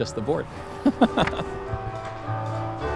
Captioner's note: laughter; cheerful church melody